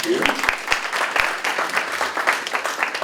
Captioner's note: applause